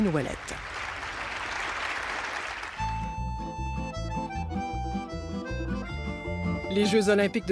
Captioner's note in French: applaudissements